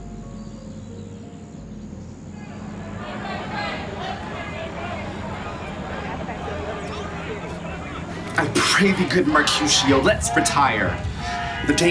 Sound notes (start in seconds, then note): 2.4 crowd chanting